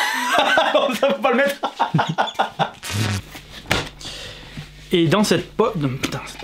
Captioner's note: big laugh of male patriarchal